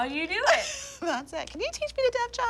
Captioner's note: laughs